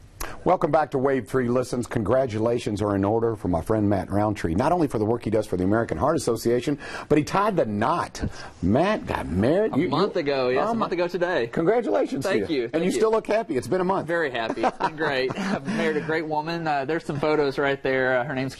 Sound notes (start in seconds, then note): 14.5 laughs